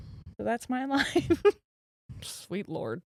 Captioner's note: giggles